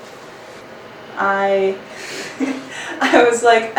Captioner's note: laughs